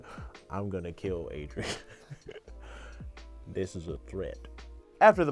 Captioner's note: laughs